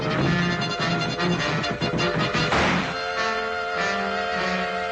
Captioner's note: suspenseful music; door slamming